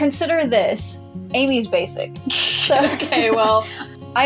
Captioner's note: chuckle; snicker